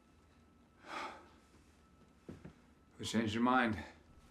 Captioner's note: Michael sighing